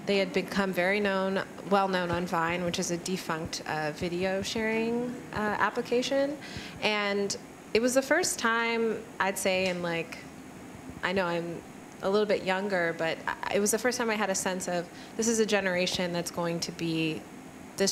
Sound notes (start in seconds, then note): none